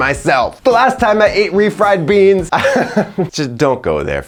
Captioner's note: laughs